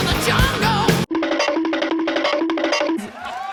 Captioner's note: cartoon running sounds